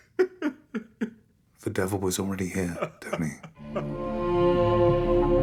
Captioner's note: Ridge sobbing